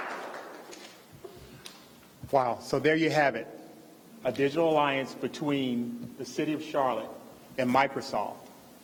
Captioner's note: applause